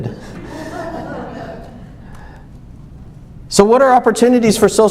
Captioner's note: laughs